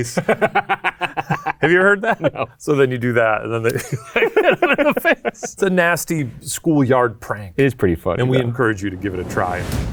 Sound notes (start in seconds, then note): 0.0 laughs; 3.7 laughs